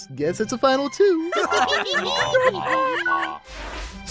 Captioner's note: laughing